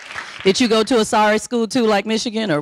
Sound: audience applauding

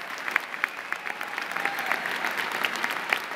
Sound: applause

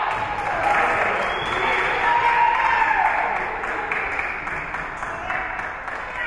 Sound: whistle being blown; spectators cheering and applauding

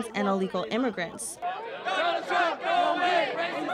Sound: protesters chanting

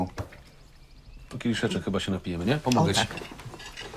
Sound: speaking in foreign language

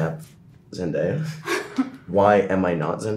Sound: Sadie laughs

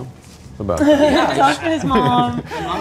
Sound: people laughing

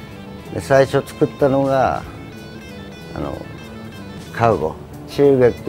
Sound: speaking in Japanese

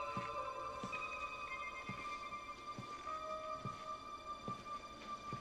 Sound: slow cautious footsteps

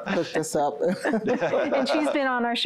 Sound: laughter

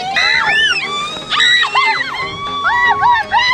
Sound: yelling and laughing

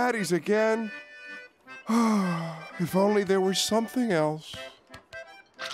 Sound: sighing

